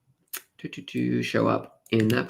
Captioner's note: humming